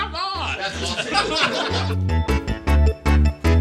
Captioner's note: all laugh